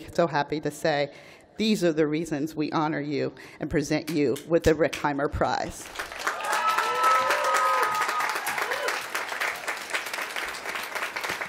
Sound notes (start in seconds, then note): 5.8 applause